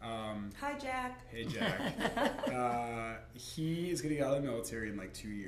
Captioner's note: laughter